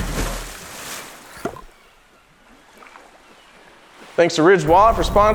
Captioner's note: water splashing; seagulls squawking